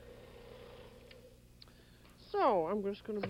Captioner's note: whirring stops